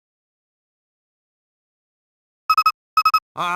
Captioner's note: silence